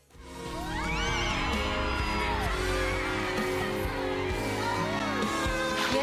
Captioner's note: audience cheering